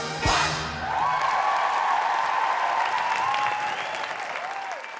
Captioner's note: cheers and applause